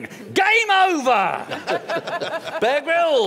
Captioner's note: laughter